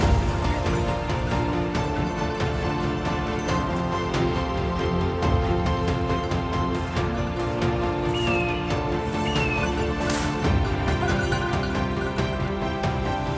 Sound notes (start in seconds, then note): 9.1 bird chirping; 10.9 gun firing